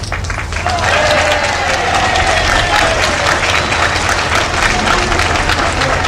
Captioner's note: audience cheering and applauding